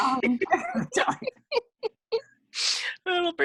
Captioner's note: laughing